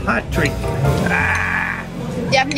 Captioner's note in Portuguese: gemidos